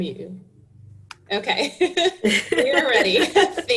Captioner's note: laughing